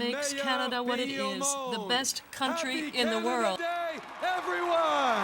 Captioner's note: applause